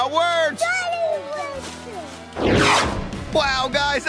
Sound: yelling power words

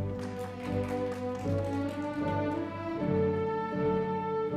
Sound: audience applauding

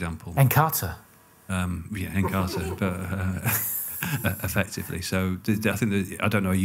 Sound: laughs

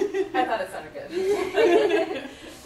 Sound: laughs

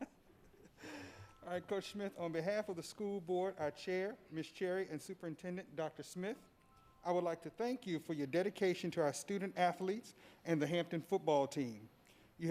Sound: laughter

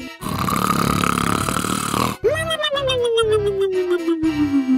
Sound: exaggerated snoring

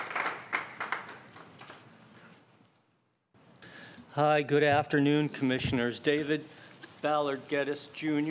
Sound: applause

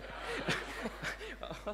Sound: audience laughing

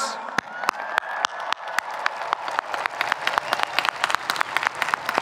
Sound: audience cheering

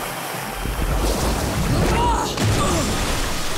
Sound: groaning

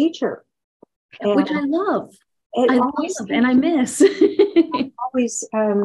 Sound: laughs

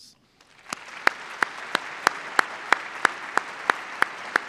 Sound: applause

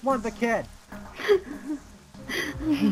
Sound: crying

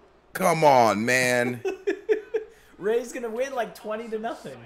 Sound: laugh

